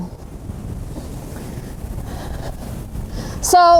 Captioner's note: wind blowing